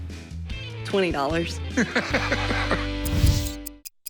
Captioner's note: chuckles